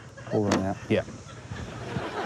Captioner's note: click!; laughter